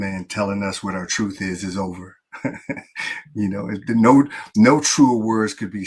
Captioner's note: laughs